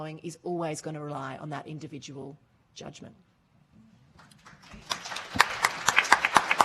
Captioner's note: applauding